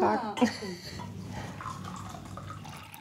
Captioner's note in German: Gluckern